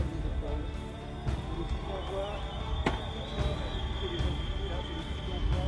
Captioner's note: spectators cheer